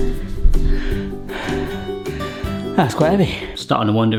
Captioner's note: panting